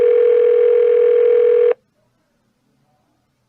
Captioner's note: phone still ringing